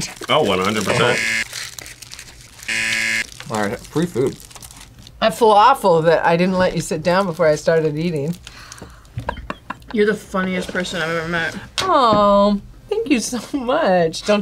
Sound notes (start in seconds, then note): 2.6 buzzer rings; 8.6 sighs; 9.2 laughs